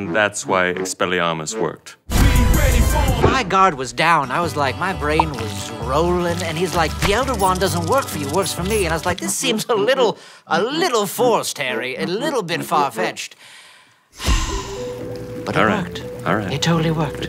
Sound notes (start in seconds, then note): 14.1 sigh